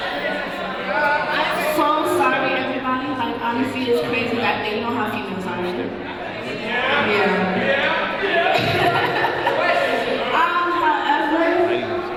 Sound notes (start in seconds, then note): 8.2 audience agreeing; 8.5 laughter; 11.9 audience yelling